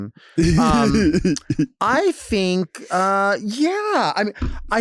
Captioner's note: laughing